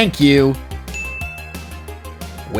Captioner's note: ding!